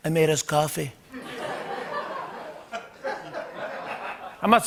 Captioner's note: laughter